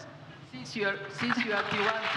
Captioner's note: audience applauds